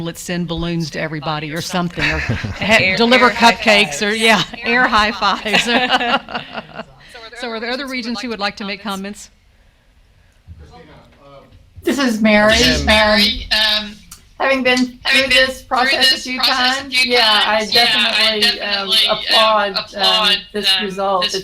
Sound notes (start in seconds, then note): 6.2 laughs